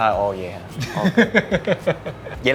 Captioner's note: laugh